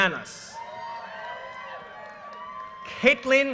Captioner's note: audience cheers and applause